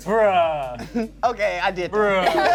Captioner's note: laughs